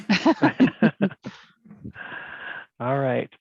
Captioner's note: laughing